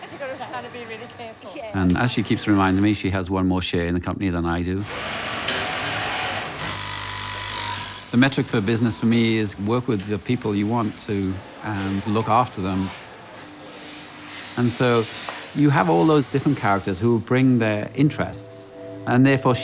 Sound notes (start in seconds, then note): 0.0 indistinct conversation; 5.2 machines whirring, buzzing